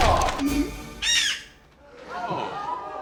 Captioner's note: bird squawks